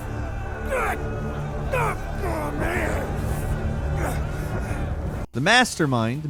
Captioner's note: grunting